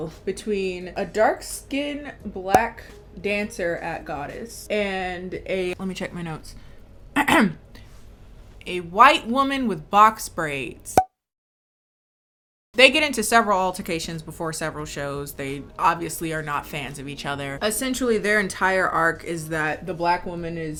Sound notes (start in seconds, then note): 2.0 popping; 7.3 clearing throat; 10.9 popping